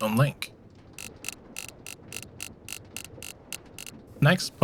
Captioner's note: switch whirring